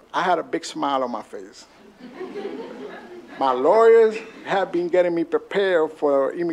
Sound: laughter

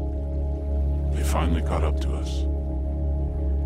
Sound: low Voice

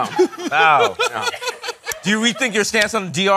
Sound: laughing

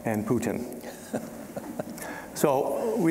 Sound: chuckling

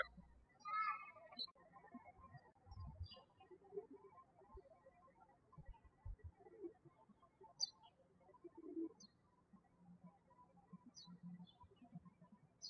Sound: birds chirping

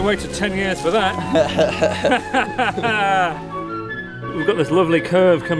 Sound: both men laughing

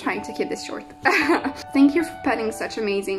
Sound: laughs softly

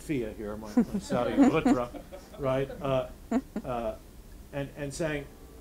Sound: audience laughing

